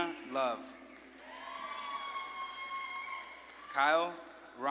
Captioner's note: audience claps and cheers